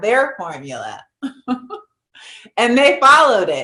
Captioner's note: chuckles